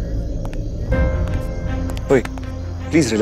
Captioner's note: Footsteps